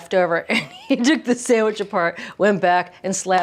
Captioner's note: laughs